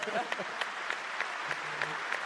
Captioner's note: applause